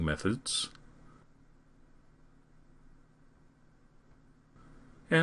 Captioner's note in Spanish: Silencio intencional